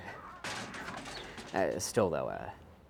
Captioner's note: metal cans banging